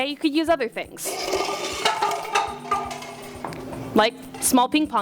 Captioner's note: cups slide off of table